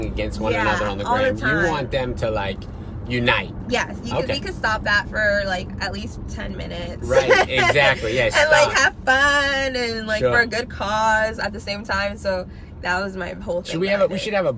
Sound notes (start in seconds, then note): 7.1 laughs